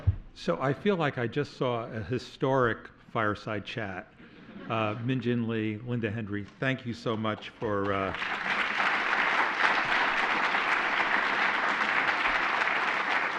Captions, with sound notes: So I feel like I just saw a historic fireside chat. Min Jin Lee, Linda Henry, thank you so much for-- [APPLAUSE]